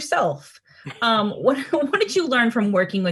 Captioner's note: Anthony laughs